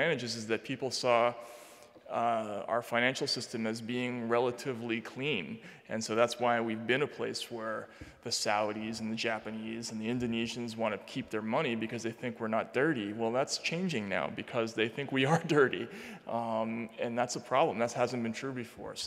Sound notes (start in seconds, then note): 15.2 chuckling